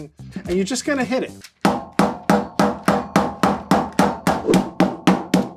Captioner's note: rolling pin pounding